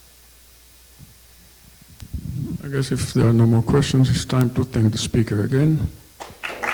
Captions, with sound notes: - I guess if there are no more questions it's time to thank the speaker again (applause)